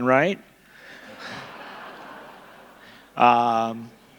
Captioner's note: laughter